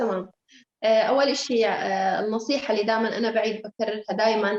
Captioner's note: speaking Arabic